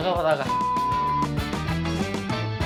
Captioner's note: sound effect - Beep